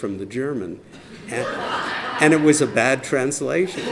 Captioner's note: laughter